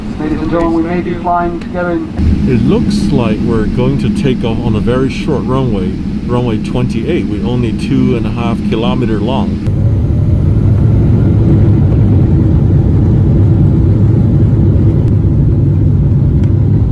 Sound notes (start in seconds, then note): 9.9 aero plane taking off